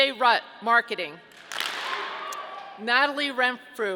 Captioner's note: audience clapping